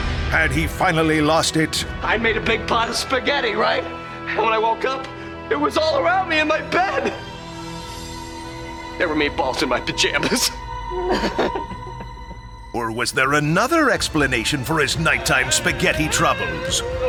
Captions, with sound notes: Had he finally lost it? I made a big pot of spaghetti, right? And when I woke up, it was all around me in my bed! There were meatballs in my pajamas! [sobbing] Or was there another explanation for his night time spaghetti troubles?